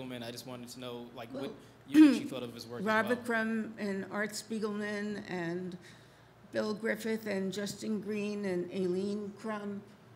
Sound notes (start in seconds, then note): none